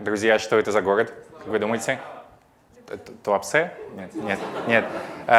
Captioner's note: audience laughing